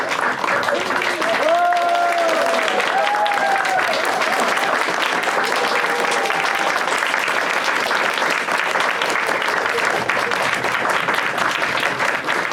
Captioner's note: audience claps and cheers